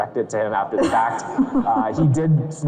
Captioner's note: everyone laughs